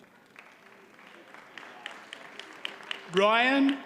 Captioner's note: audience applauds